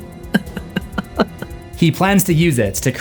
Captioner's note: Light’s evil laugh